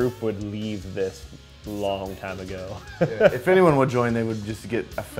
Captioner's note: laughs